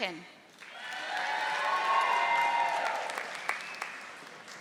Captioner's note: audience applauding